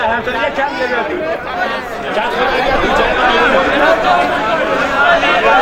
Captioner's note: indistinct chatter